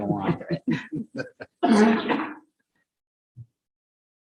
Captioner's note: participants laugh